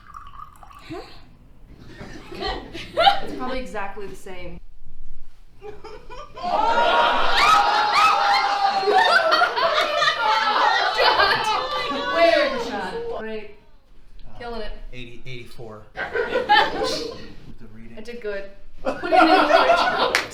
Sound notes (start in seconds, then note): 5.6 audience laughs; 18.8 audience laughs